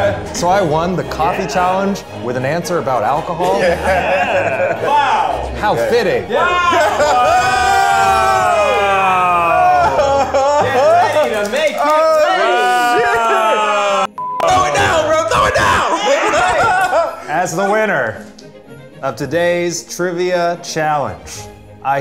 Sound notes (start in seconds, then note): 7.8 all cheering; 14.1 beep; 14.7 shouting; 16.3 all laughing